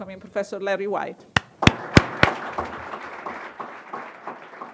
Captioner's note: applause